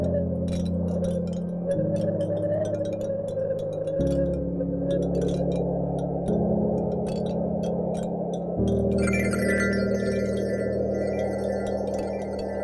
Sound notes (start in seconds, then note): 9.0 magical jingling sound